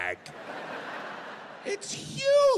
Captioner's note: audience laughing